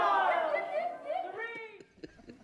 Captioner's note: shouts